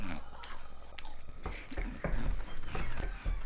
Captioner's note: knocking; creaking